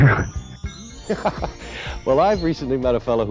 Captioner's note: chuckles